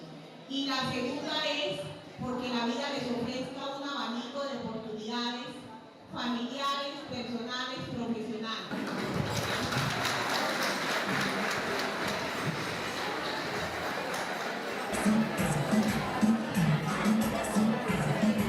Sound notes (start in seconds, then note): 10.4 clapping; 14.9 reggaeton music playing